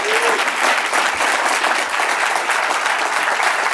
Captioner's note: laughs